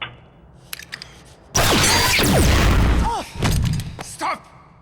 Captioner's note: gunshot